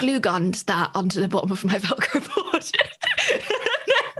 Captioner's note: laughs